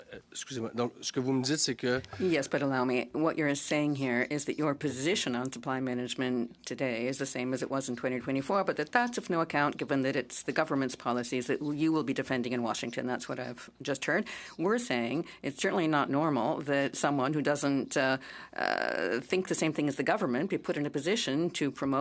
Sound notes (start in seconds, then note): 3.3 speaking in French